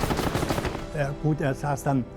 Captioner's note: speaking german